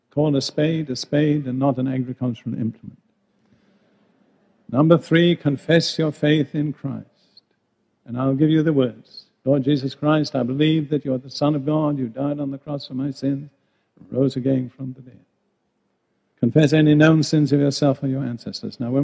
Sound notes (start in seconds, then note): none